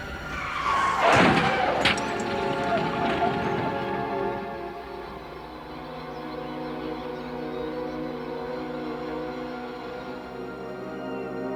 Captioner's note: tires squealing; crash and glass breakng